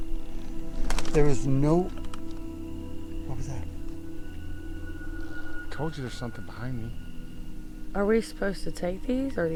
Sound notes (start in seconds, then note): 2.0 branches crackling; 4.5 tender suspenseful music